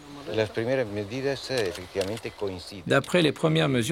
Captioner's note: Spanish spoken audio